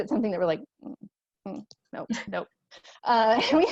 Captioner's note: laughter